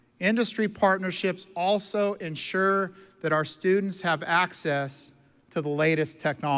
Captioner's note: none